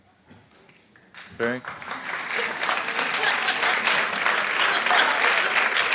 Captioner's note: audience applauds